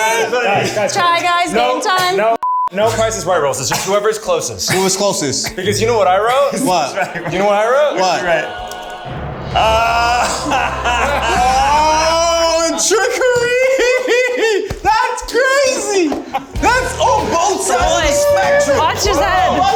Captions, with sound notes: - Guys, guys, wait, no- - Try Guys Game Time. - No Price is Right Rules. It's just whoever's closest. - Whoever's closest. - Because you know what I wrote? - What? - You know what I wrote? - What? (ethereal singing) (all laughing) Oh, a trickery! (laughs) That's crazy! That's, oh both sides. - Watch his head.